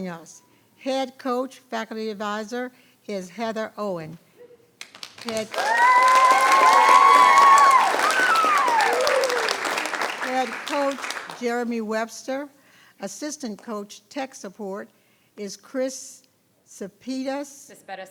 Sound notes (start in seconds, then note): 5.2 people cheering; 7.3 people clapping